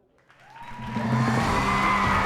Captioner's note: cheering and applause